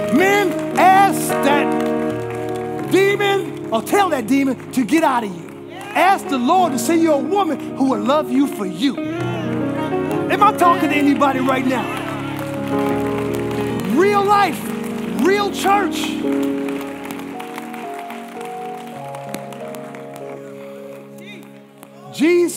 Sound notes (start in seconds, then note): 16.5 congregation applauding